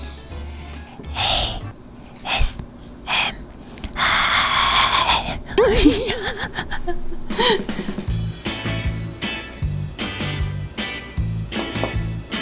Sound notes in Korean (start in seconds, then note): 5.6 웃음